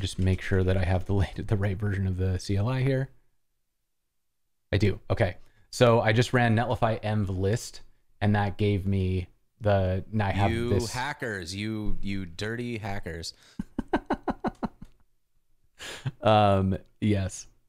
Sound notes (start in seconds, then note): 13.6 laughter